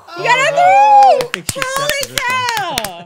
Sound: clapping

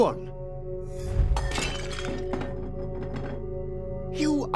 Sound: bowl shatters

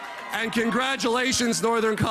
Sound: applause

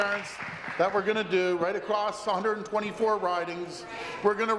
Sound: applause

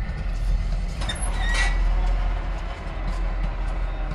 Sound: crossing gate rises

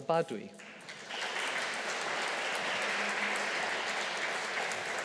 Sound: audience applauding

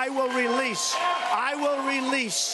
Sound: applause

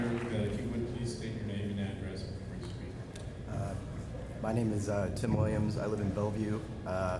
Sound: applause

